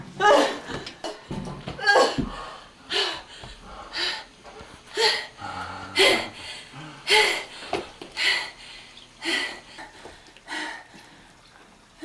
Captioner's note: heavy breathing